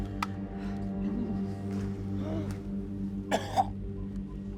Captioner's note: groaning; coughing